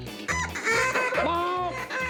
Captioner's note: duck calls